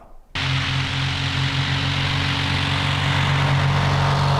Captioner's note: airplane engine revving